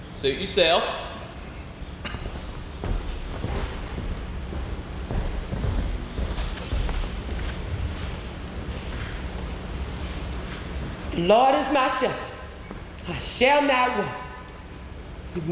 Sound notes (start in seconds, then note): 3.1 footsteps thumping